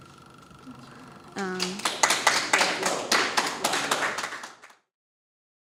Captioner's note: clapping